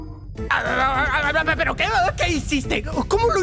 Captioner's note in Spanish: Tartamudea